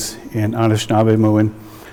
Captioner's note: speaking in indigenous language